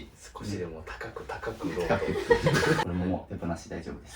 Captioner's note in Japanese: 笑い